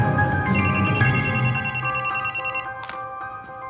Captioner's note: phone ringing